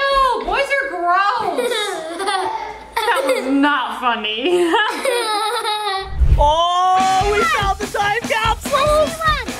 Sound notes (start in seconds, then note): 1.2 kids laughing; 4.6 laughs